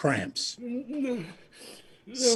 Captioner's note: groan